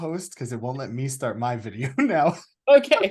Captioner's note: chuckles